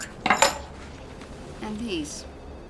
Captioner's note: keys clattering